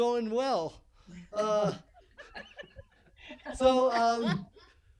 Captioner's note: laughing